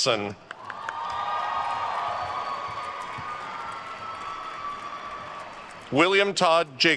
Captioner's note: attendees cheering and applauding